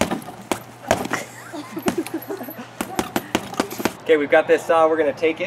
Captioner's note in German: lacht